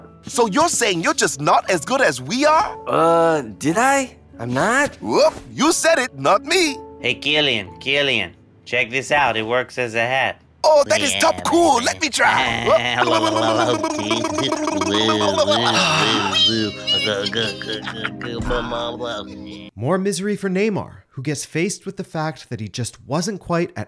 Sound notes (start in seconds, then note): 12.6 silly sounds; 15.5 sighs; 16.6 silly sounds